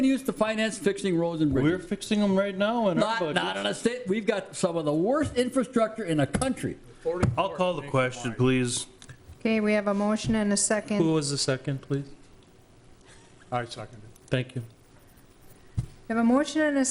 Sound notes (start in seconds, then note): 7.1 pounding table; 13.9 pat